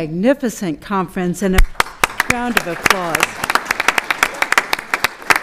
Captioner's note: applause